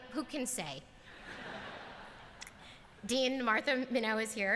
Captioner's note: laughter